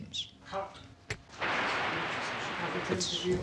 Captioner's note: static buzzing